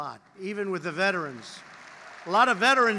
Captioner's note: applause